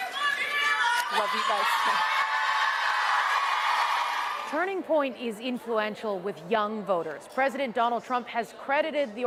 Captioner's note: cheers and Applause